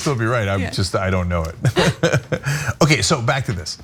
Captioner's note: laugh